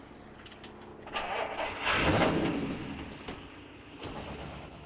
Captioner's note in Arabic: هدير محرك السيارة